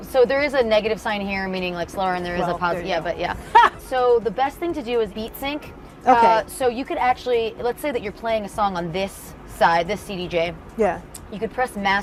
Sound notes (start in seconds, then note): 3.4 laughs